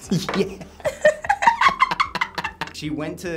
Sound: both laugh

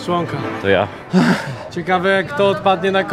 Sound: sigh

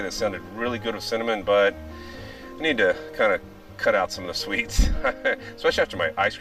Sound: chuckles

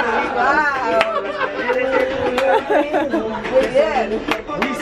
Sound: laughs

